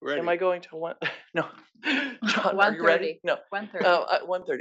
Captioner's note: laugh